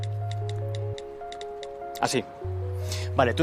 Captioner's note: typing